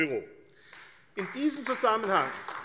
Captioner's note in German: Beifall AfD